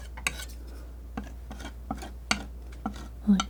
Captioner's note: tapping